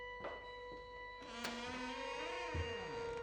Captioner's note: door creaking; ominous music